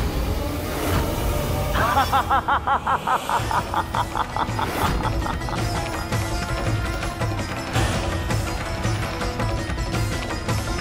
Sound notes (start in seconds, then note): 1.7 laughs loudly; 5.2 dramatic music playing